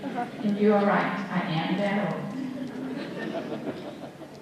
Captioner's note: laughter